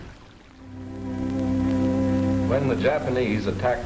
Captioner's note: water flowing; soft music begins